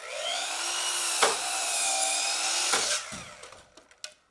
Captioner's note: saw grinding